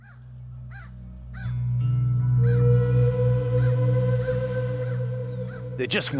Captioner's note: ravens cawing